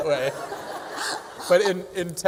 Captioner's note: laughter